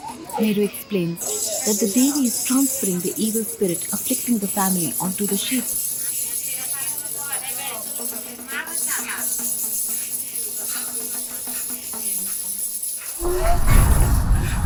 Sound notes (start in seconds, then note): 5.8 dramatic music; 5.8 iron chains clanking